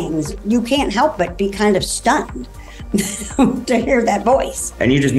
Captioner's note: laughs